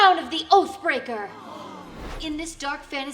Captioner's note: crowd gasps